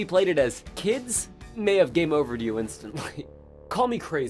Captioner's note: laughs